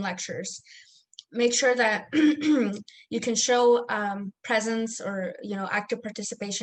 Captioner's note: clears throat